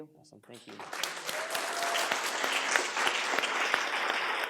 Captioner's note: audience applauds